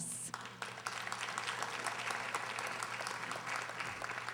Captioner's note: audience applauding